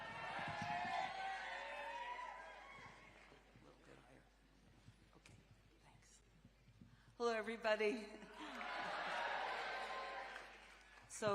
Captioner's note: cheering